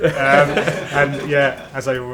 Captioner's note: laughter